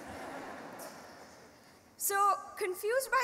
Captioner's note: laughing